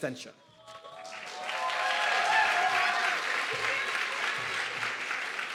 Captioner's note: audience clapping and cheering